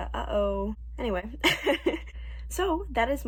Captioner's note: laughs